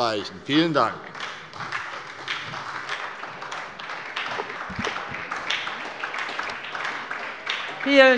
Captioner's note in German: Beifall bei der SPD